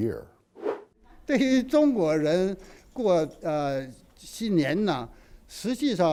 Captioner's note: speaking foreign language